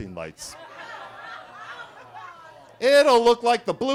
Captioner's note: attendees laughing